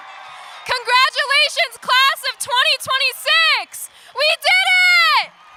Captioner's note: cheering